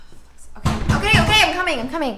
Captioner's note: door bangs